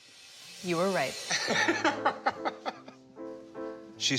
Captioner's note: laughs